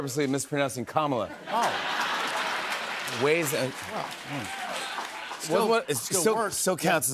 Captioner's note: laughter and applause